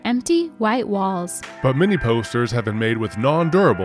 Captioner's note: hands slapping